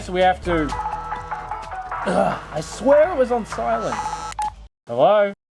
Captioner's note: ringtone